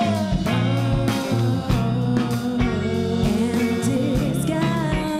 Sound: none

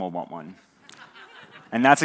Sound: audience laughs

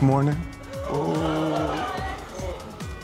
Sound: audience gasps

